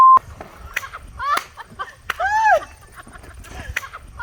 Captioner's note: people laughing